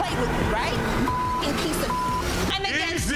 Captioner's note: beep